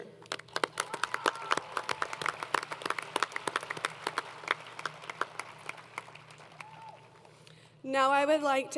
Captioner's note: applause